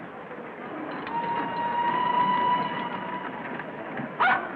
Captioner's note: Flora barks